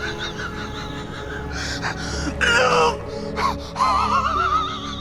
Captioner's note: shouts